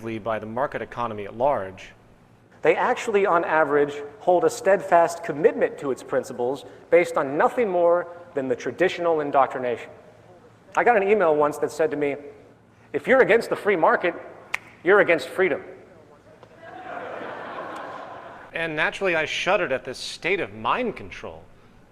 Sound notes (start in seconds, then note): 16.5 laughter